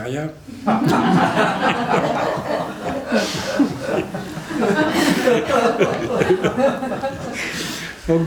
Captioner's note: laughter